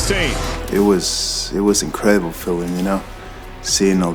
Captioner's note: voiceover